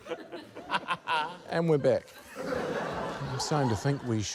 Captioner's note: laughter